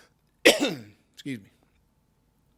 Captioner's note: coughs